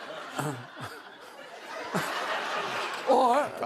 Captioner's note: laughter